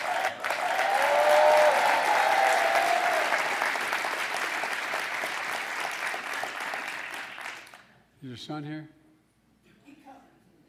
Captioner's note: applause